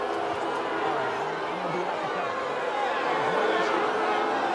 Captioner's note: crowd jeering